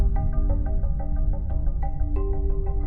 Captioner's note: muffled explosion